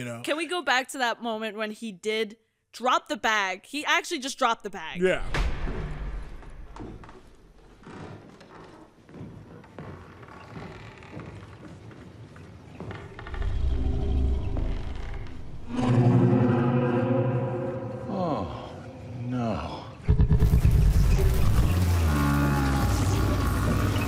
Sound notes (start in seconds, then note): 6.0 footsteps and stairs creaking; 13.7 deep growling; 15.6 animal roaring; 20.4 creature bellows deeply